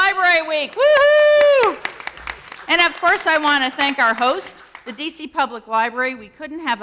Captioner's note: applause